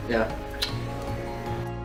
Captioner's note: kiss